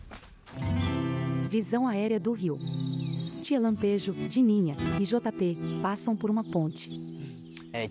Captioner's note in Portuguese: Pássaros